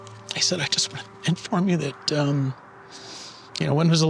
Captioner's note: voice quavering; hoarsely